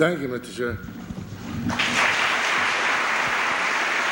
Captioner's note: applause